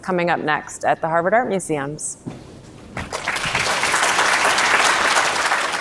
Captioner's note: audience clapping